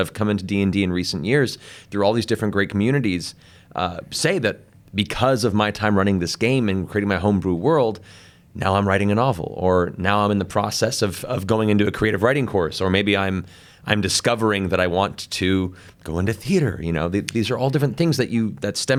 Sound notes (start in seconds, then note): none